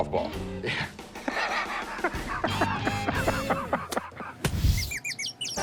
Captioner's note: laughs